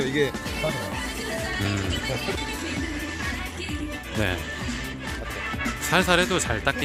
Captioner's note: sighs